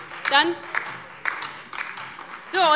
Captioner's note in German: Beifall DIE LINKE und Freie Demokraten - Zuruf CDU